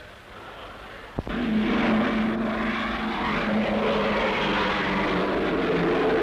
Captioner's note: airplane noise